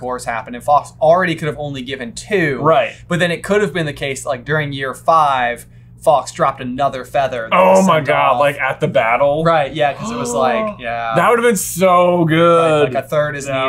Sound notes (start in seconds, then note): 11.0 gasp